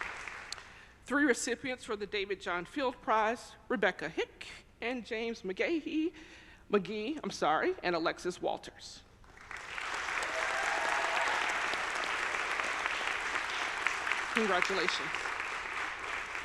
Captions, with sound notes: Three recipients for the David John Field Prize, Rebecca Hicke and James McGehee and Alexis Walters. (audience applauding) (audience cheering) congratulations.